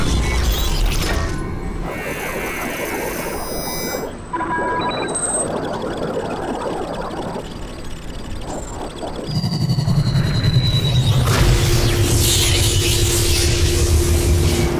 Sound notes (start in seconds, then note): 2.3 beeping; 2.3 scanning; 11.2 zap